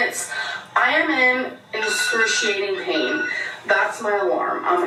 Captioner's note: alarm goes off